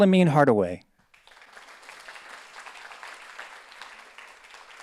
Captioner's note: audience applauds